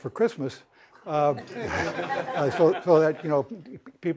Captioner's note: laughter